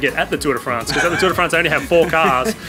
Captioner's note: laughs